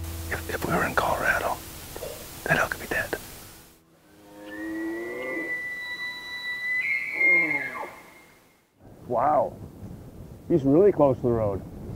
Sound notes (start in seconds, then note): 4.0 elk Bugling